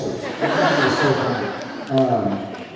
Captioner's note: laughs